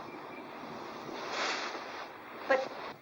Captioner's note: dress rustles